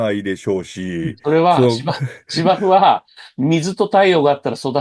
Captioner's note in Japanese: 笑い